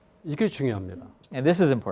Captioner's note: speaking in Korean